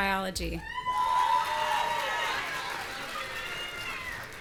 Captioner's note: audience cheering